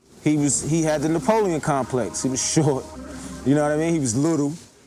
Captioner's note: chuckling